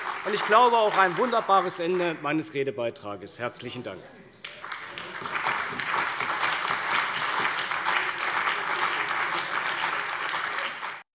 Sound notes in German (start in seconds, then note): 4.4 Beifall bei der CDU und dem BÜNDNIS 90/DIE GRÜNEN